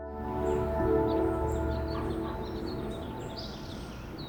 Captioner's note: birds chirping